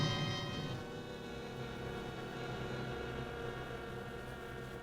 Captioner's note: equipment buzzing